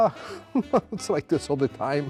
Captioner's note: chuckles